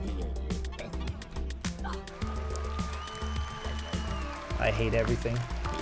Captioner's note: cheering sounds